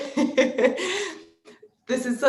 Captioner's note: laughs